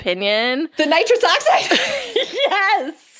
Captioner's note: laughs